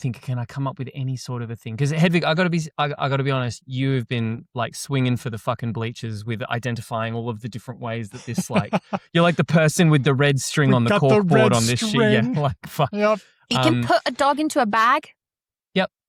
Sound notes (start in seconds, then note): 8.0 laughs